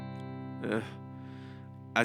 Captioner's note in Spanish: queja audible